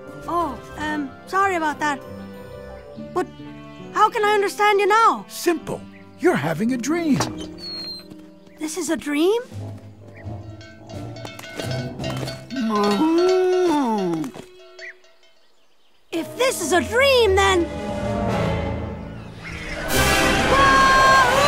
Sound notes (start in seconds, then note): 10.2 cow bells ring; 12.3 cow moos